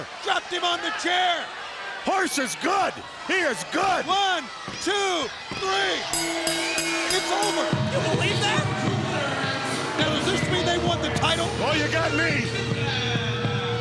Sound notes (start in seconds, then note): 6.1 bell ringing